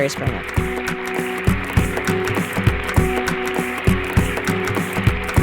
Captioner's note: audience applauding